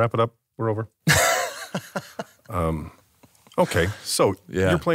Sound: laughs

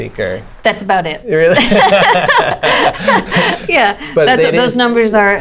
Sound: laughter

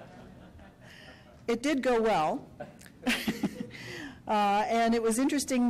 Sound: laughter; laughs

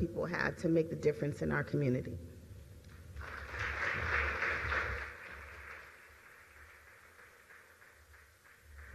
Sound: applause

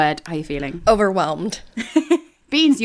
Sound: laughing

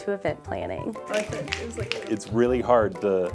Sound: snapping

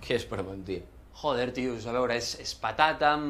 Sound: none

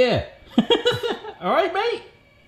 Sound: laughing

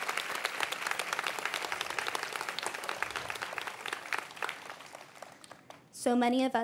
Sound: cheering

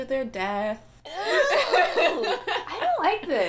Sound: frustrated yell; laughter

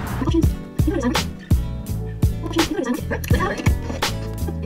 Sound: audio fast-forwarding

